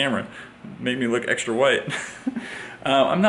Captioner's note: chuckle